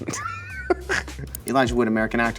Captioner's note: laughs